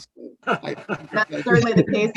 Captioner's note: laughs